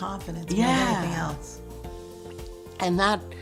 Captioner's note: voiceover